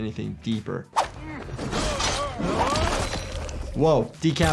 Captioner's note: characters groan, weapon slashes